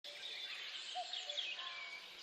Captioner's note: birds tweeting